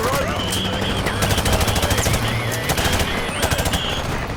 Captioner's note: guns firing